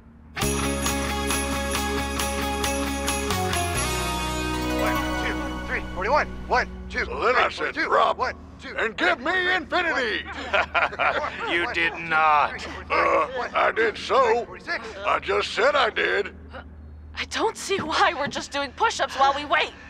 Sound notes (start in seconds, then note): 0.4 upbeat holiday music; 5.1 group counting; 10.0 chuckles